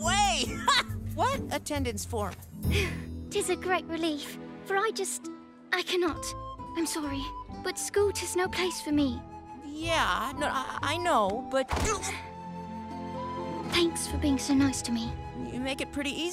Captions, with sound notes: Ha! What attendance form? [sighing] Tis a great relief. For I just... I can not. I'm sorry. But school is no place for me. Yeah, I... I know, but- Thanks for being so nice to me. You make it pretty easy.